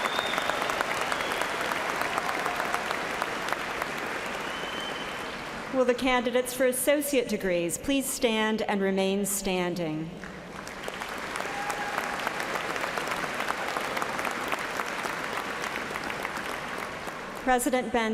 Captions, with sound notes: [ CHEERS AND APPLAUSE ] WILL THE CANDIDATES FOR ASSOCIATE DEGREES PLEASE STAND AND REMAIN STANDING. [ CHEERS AND APPLAUSE ]